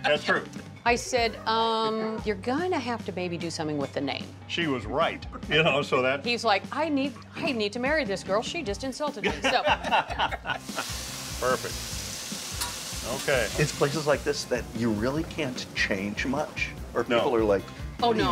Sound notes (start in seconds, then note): 9.2 laughing